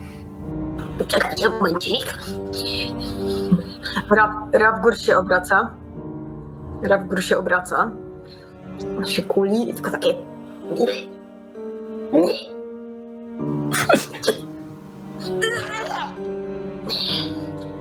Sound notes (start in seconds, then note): 9.3 puking noises